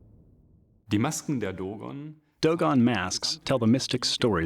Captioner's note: non-english speech